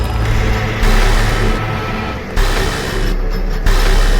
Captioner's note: dramatic music; static crackling